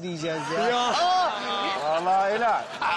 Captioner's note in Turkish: Gülme sesleri